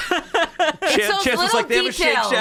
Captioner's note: laughs